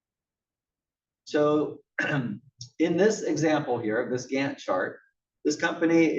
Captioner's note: cough